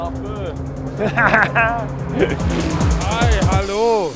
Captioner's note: laughs